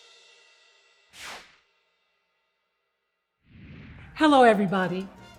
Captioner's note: air whooshing